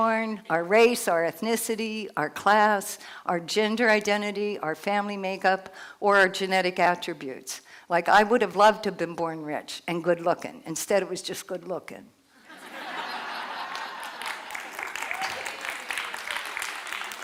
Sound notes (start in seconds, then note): 12.4 laughter